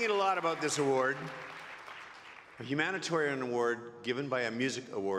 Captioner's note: applause